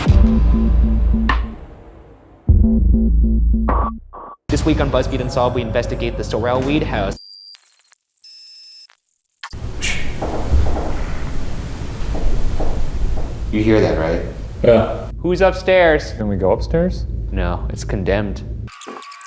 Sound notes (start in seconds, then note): 0.0 slow suspenseful music; 7.2 electronic noise